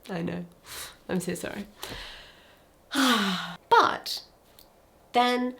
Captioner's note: person sighing